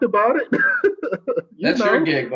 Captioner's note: laughs